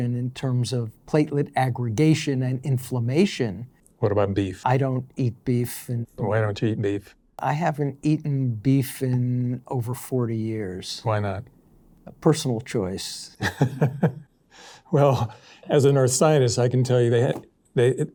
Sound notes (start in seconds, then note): 13.4 chuckles